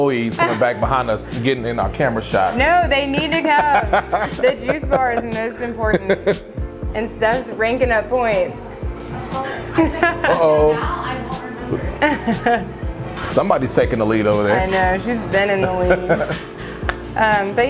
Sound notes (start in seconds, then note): 2.5 laughing; 9.5 chuckles softly; 11.2 people talking; 15.5 chuckles softly